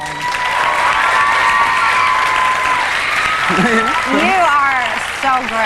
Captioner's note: audience cheering